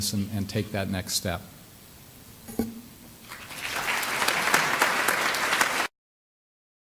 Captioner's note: clapping